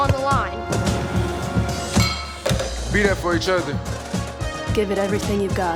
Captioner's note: weights clang